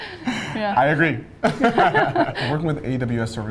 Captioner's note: both laughing